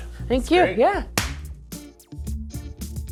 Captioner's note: clapping; funky music